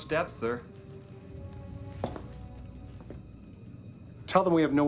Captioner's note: footstep